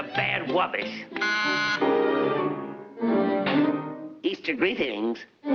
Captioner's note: doorbell buzzes